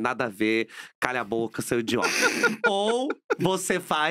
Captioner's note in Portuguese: risos